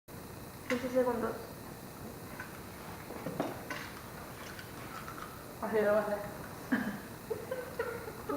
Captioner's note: crack crack